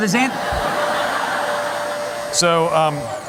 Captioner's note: laughter